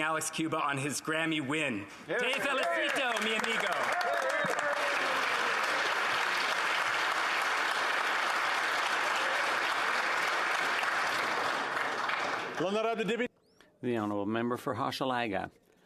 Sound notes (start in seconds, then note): 9.4 speaking alternate language; 9.8 applause